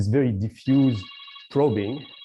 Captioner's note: timer alarm